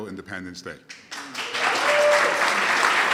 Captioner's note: applause